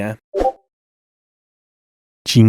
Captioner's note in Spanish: Notificación de Discord